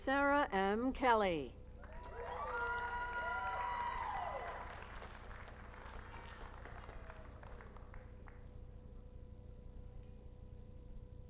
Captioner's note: applause